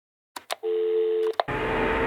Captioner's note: dial tone; click